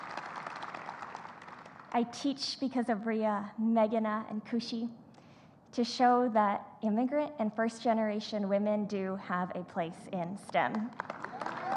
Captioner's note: applause